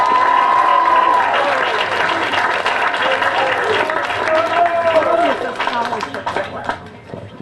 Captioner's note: applause